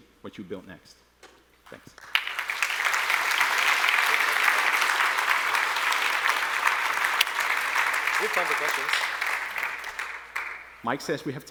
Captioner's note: applause